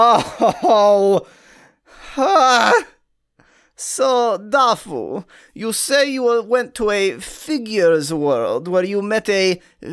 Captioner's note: in mock psychologist voice